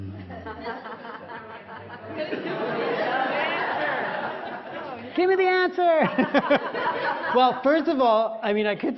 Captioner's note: 笑聲; laughter